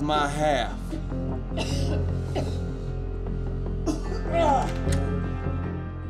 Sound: coughing

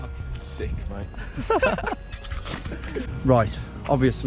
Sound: both laughing

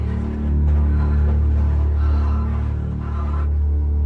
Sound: panting

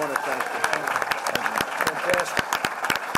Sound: applause

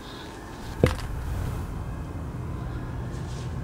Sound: baseball bat crushing something in background

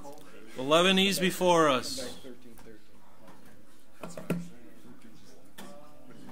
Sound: overlapping chattering

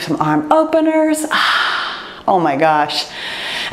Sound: sighs

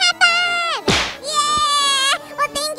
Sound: loud thump

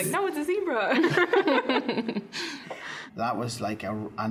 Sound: all laughing

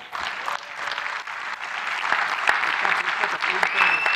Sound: audience clapping

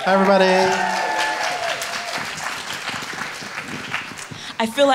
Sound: audience applauds

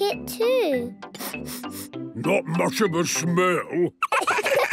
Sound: sniffing; sniffs

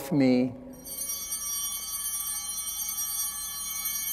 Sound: bell ringing

